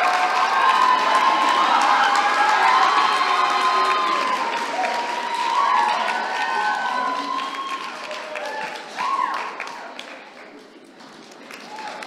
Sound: applause

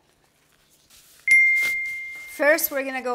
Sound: bell dings

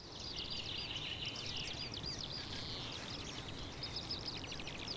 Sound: birds twitter

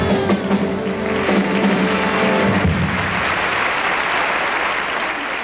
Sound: audience applauds

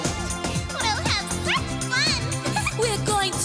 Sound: giggles

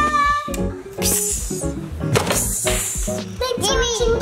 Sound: water spraying noise

